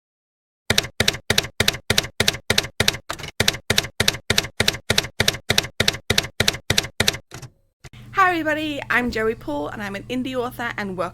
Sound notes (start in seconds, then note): 0.7 typewriter keys clacking